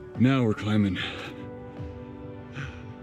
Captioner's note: birds chirping